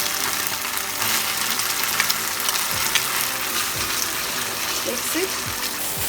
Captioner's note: sizzling sound of frying